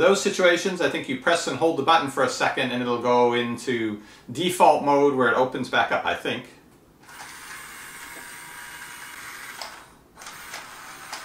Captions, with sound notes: So for those situations, I think you press and hold the button for a second and it will go into default mode where it opens back up, I think. (motor)